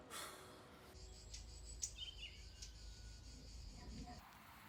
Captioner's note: birds singing